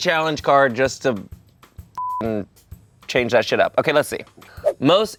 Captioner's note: beep